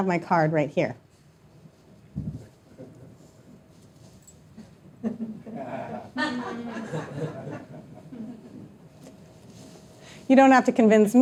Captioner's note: audience members laughing